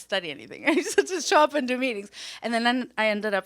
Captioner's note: laughs